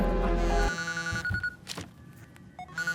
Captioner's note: mobile ringing